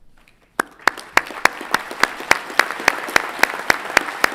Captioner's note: everyone clapping